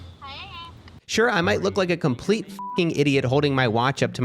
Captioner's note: beeping